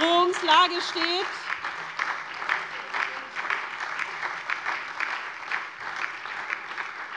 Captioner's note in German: Beifall SPD und DIE LINKE